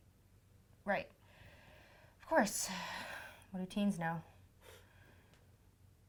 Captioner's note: sigh